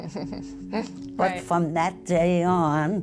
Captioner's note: laughter